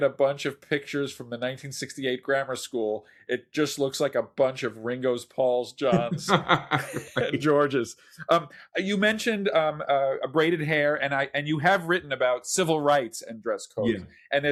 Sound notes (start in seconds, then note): 5.8 laughs